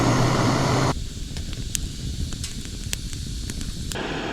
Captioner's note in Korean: 물 끓는 소리